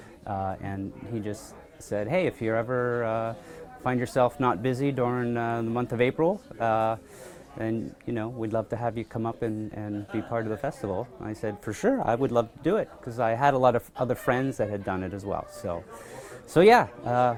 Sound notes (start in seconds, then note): none